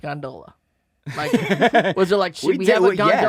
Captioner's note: laughing